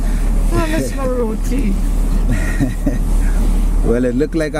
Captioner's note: laughing